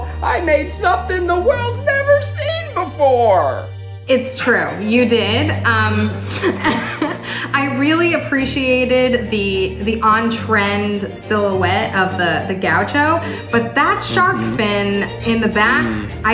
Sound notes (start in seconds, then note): 5.6 laughing